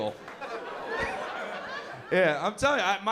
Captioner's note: laughter